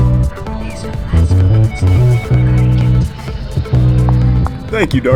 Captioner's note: whispers